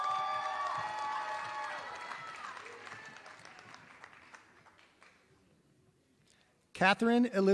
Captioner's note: applause